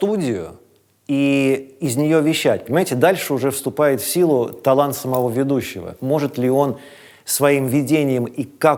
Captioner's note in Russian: none